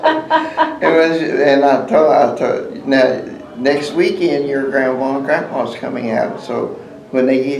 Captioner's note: laughter